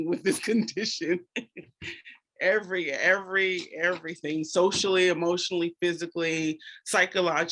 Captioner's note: chuckles